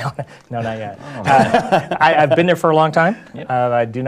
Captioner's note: laugh